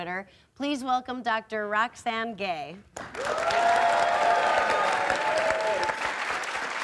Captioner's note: applause